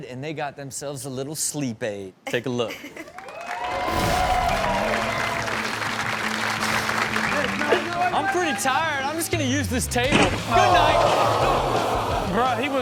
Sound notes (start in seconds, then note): 3.1 audience cheers; 3.3 upbeat music